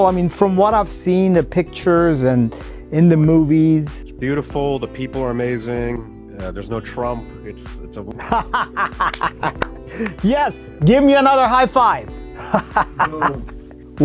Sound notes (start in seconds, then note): 8.1 laughs; 13.3 laughs